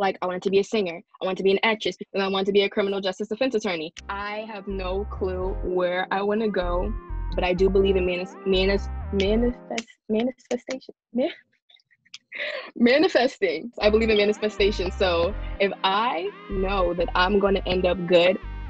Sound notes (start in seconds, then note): 13.8 giggles